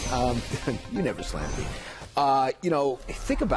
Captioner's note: laughter